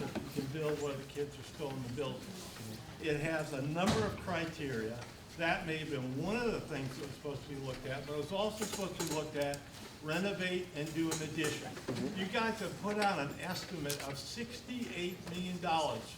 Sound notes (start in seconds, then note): none